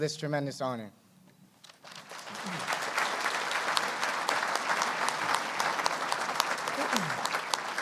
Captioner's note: applause